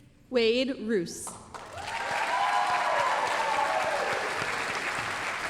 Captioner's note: applause, cheering